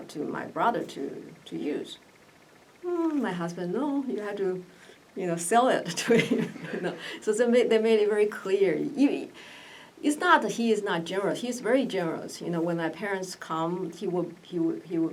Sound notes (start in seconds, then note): 6.0 laughs